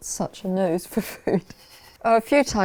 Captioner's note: laughs